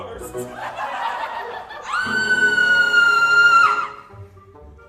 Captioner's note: laughter; the Queen screams